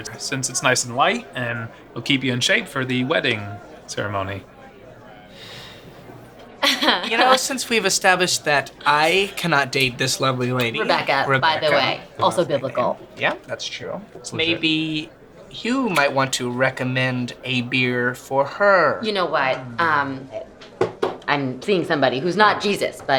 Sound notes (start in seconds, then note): 3.1 laughs